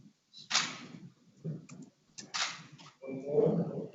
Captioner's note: camera clicking